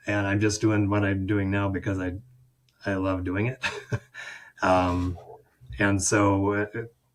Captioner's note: chuckles